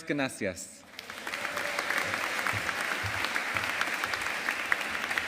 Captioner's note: audience applauding